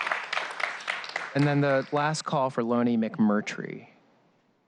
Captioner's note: applause